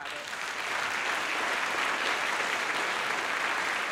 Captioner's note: applause